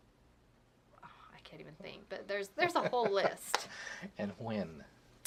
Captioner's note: laugh